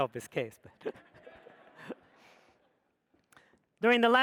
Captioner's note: audience laughs